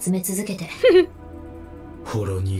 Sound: chuckles

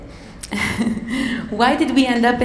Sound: chuckling

